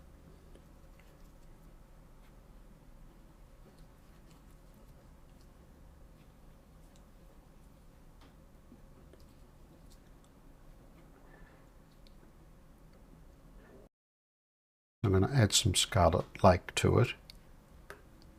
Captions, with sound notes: [silence] I'm going to add some scarlet like to it.